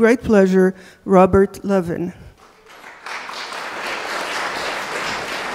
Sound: applause

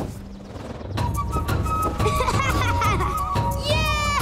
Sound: laughing

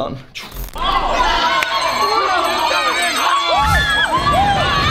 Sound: glitch; cheering; explosions

